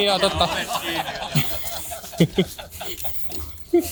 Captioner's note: laugh :D